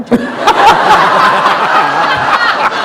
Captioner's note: laughter